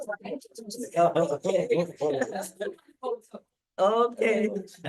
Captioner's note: group laughs